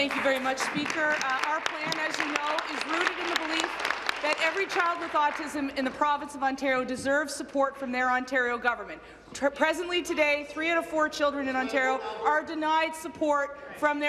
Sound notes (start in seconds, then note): 5.5 applause